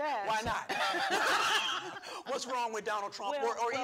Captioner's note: laughing